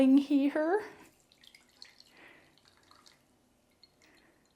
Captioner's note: pouring sound